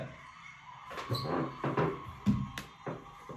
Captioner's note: creaking noise